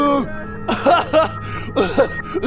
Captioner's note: sobs; traumatic cry